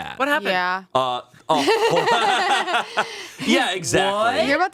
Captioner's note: all laughing